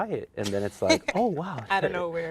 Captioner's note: laughs